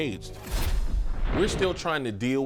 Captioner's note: air whooshing